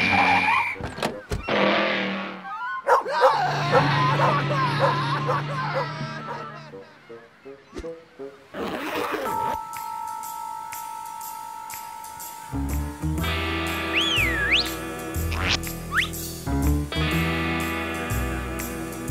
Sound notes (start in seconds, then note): 0.1 door opens, closes; 2.8 barking; 13.8 whistles